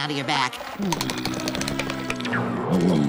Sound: moaning

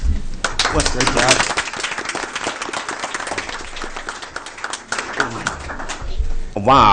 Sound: applause

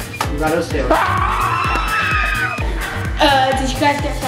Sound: all screaming

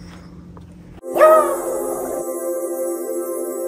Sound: howling

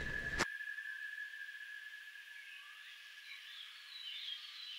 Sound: nature noises

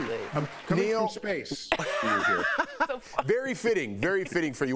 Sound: applause

